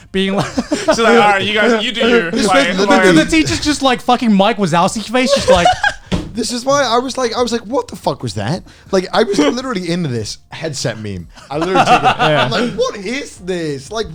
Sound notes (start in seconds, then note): 0.1 laughs; 5.2 laughing